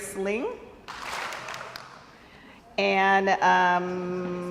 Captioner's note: crowd applauds